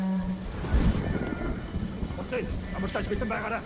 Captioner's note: thunder rumbling; speaking in foreign language